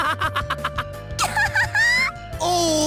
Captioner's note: laugh